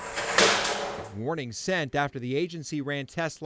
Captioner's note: helmet clatters